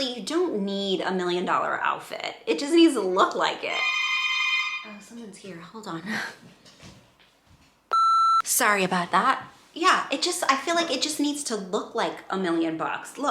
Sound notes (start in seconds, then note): 3.7 door bell ringing